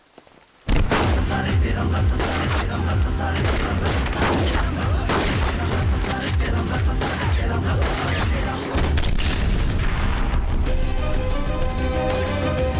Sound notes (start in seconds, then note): 0.6 gun shots